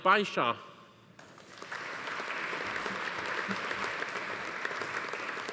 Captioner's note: audience applauding